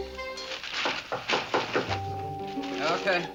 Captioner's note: knocking on door